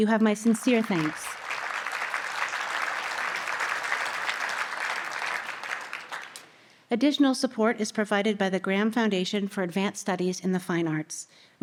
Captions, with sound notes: You have my sincere thanks. [Audience applause] Additional support is provided by the Graham Foundation for Advanced Studies in the Fine Arts.